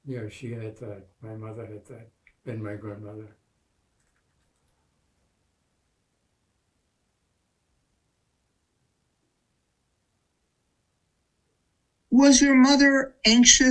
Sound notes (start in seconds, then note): 4.0 pauses 8 seconds